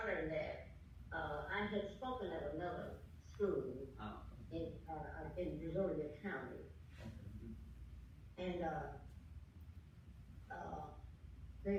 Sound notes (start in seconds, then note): none